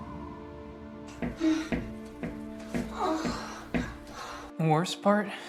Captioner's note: moans and bed rocking